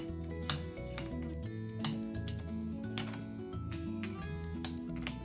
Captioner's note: blocks clicking together